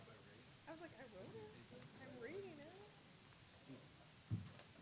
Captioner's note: people chatting